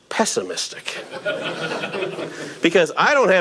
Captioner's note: audience laughing